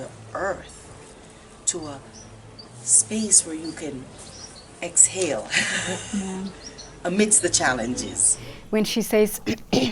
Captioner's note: laughter